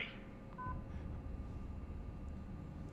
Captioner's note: beeps